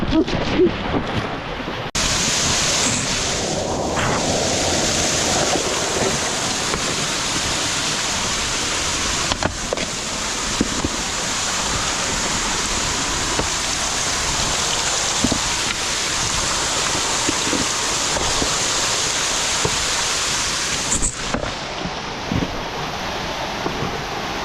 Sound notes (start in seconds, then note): 0.3 water splashing; 12.3 wind blowing